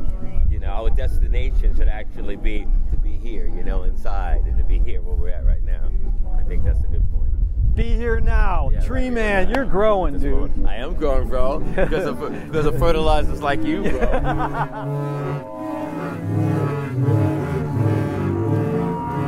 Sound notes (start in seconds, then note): 13.7 laughs softly; 17.4 dissonant synth music